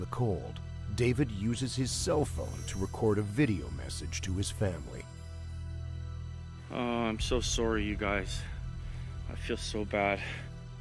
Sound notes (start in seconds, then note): 7.7 voiceover